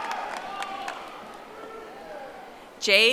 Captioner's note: audience applauding